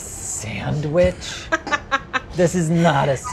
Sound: laughs

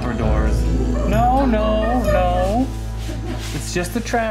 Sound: growl; laughter

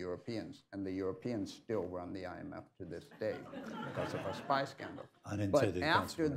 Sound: laughter

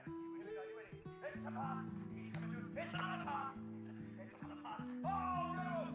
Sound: man shouting and cheering; indistinct chattering in the background

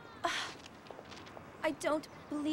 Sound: sighs

